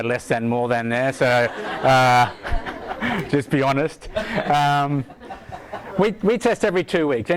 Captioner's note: audience laughing